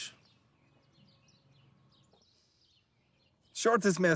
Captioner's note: birds chirping